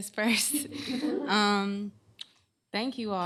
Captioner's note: chuckling